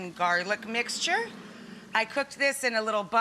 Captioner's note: audience mmm's